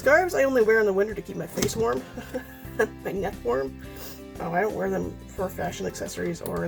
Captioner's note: laughs